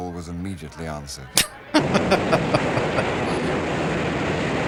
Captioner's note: laughing